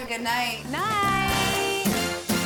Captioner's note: women all saying "Good night" at once; upbeat music